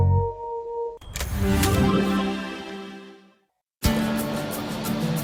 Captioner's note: electronic sound; happy music